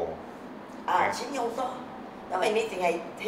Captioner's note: Cantonese